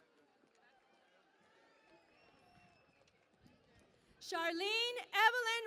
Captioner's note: cheering and Applause